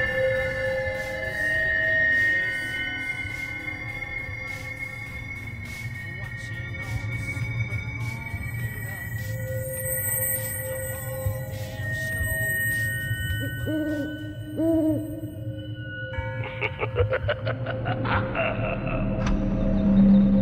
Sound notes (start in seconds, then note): 0.0 music in crescendo continues; 13.4 owl tooting; 15.0 moans; 15.8 bell sounds; 16.2 evil laugh